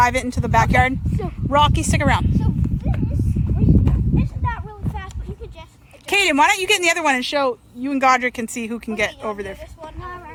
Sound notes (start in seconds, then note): 2.8 wind blows